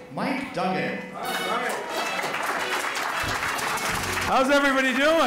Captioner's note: jazz music; applause